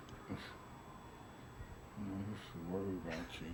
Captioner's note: both laugh